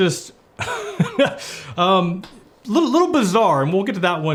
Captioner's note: laughs